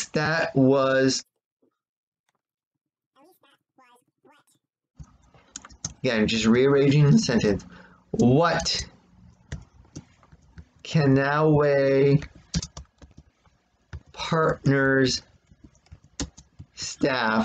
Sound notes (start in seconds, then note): 0.9 no sound as video fast forwards; 5.0 tapping of keyboard; 12.3 tapping of keyboard; 15.1 continued tapping of keyboard